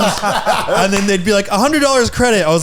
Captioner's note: laughing